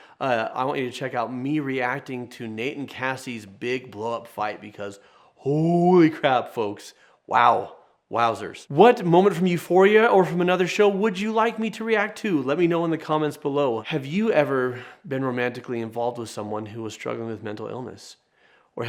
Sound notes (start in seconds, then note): none